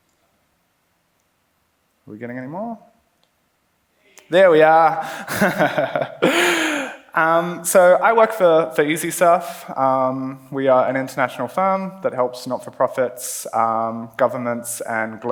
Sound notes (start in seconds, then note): 5.0 laughs